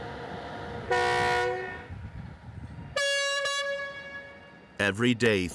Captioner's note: train horn bellowing